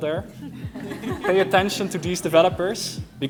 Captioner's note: laughter